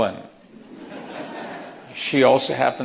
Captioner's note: audience laughing